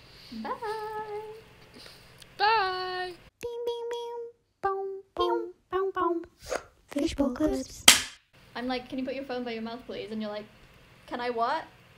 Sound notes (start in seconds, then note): 7.8 thwak